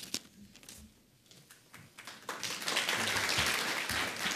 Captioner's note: audience applauds